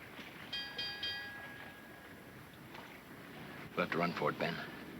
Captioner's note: bell clanging